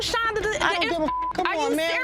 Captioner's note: beep